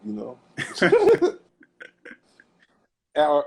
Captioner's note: laughter